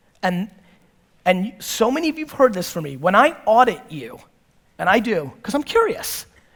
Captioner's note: none